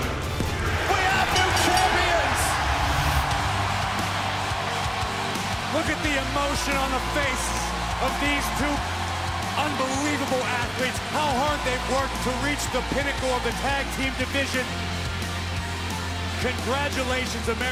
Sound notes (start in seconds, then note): 1.2 bell; 4.7 cheers & applause